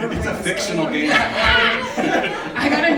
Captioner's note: laughing